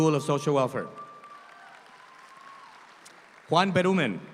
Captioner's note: audience applauds